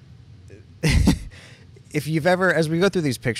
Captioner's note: chuckles